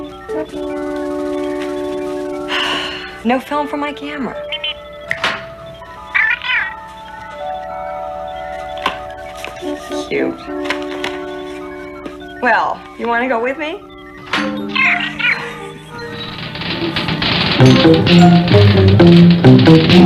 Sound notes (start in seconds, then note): 2.5 sighs; 5.0 Steve Trevor snaps his Fingers; 19.8 men Singing